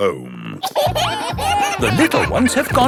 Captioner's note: kids giggling